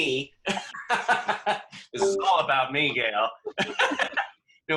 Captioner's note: laughs